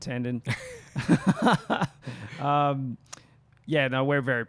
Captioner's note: laughs